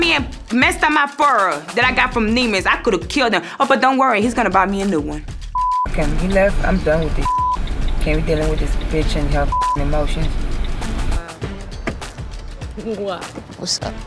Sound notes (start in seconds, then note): 5.5 beep; 9.4 beep